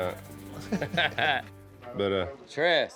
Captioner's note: laughter